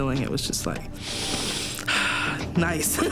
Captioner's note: inhaling & exhaling